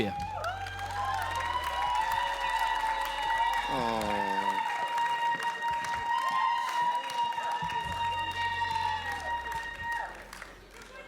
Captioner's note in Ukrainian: оплески